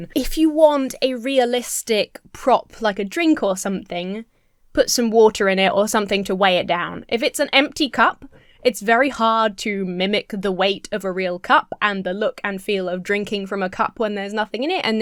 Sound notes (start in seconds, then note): none